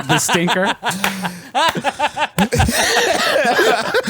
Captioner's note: laughs